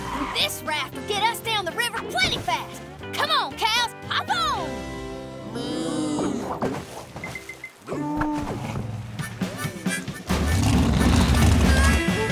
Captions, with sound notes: This raft can get us down the river plenty fast! Come on, cows! Hop on! [mooing] [country music playing]